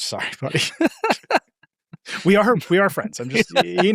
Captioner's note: people laughing